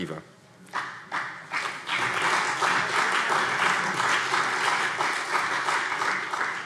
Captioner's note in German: Beifall CDU und vereinzelt BÜNDNIS 90/DIE GRÜNEN